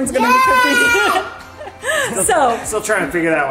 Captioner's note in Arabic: هتاف الطفل